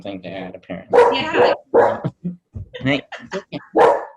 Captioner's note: barks; still barking